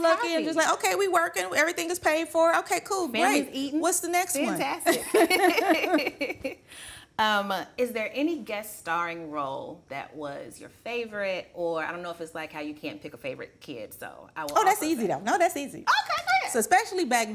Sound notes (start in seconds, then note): 4.9 laughing